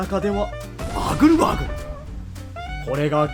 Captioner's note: bustling/humming